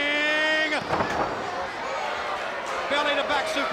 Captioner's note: wrestlers thudding on ring